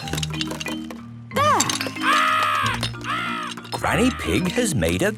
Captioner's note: seagulls cries